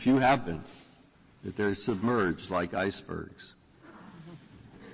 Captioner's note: laughter